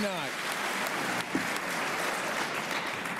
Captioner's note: applause